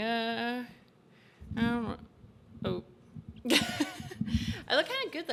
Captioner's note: laughs